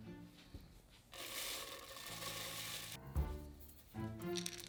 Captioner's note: oats pouring